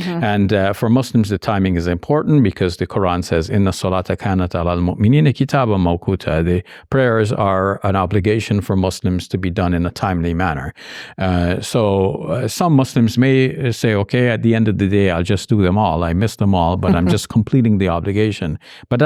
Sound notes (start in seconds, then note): 3.4 speaks in Arabic